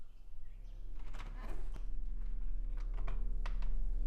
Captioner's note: creaking; ominous suspenseful music